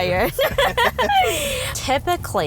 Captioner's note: both laugh